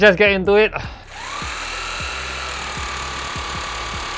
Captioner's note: whhhhhhhhhhiiiiirrrrrrrrrrrrr